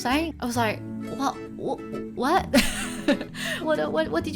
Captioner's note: laughing